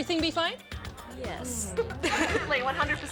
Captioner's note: laughter